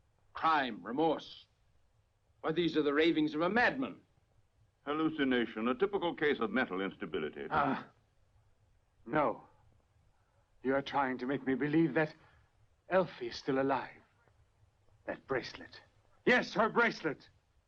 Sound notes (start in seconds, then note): 7.7 grunts